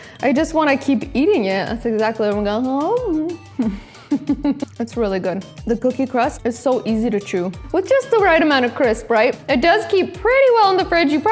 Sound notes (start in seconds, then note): 3.6 laughs